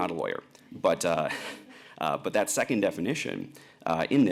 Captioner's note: chuckles